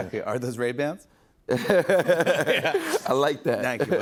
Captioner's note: laughs